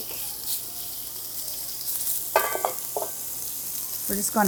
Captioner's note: pan sizzling